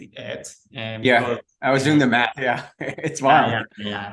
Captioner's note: laughing